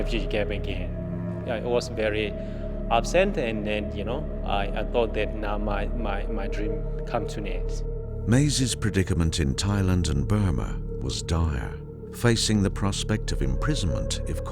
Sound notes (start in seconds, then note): 8.6 voiceover